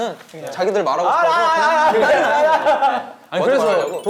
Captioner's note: imitates rowdy discussion